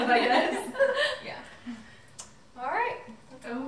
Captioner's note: everyone laughing